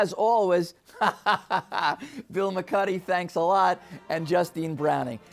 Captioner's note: laughing